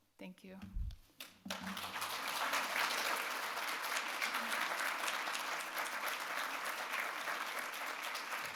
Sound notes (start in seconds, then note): 1.2 audience claps